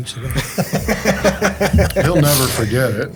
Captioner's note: group laughs